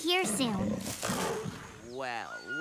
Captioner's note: snarling